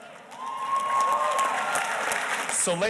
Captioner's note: audience cheers and applauds